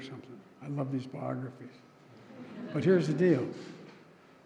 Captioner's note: laughter